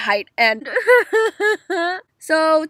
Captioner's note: dramatic tears